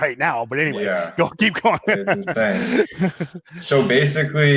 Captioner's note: laughs